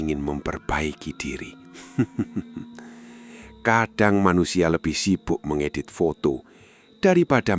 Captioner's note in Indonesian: tertawa